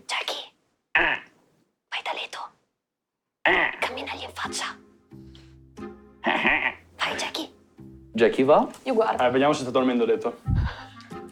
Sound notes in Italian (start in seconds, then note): 6.2 Gracchia in approvazione